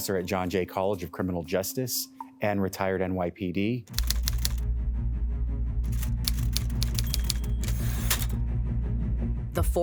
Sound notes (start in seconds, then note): 3.9 typewriter typing; 4.0 dramatic music; 5.9 typewriter dings